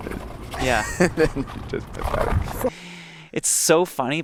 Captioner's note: Joel chuckles